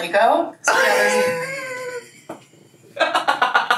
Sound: laughing

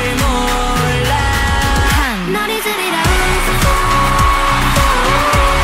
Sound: cheers intensify

